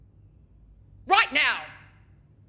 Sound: shouts

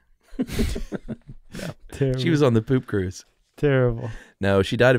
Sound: chuckling

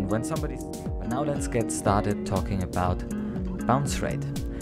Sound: voiceover

